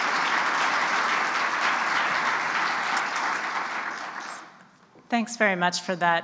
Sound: clapping

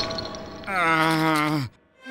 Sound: groaning

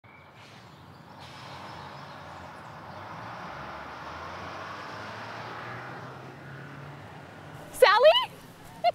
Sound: bus departing; giggling

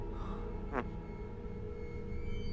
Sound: fart

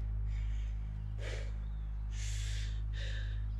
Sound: sighing; sighing

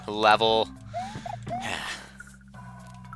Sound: sigh

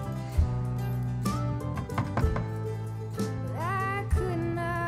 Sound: Abigail knocking

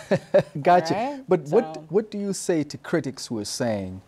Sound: chuckles

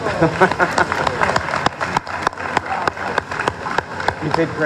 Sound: applause

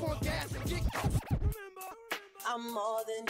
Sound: record scratching

